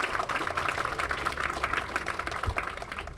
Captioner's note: applause